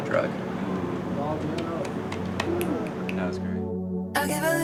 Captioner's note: group applauds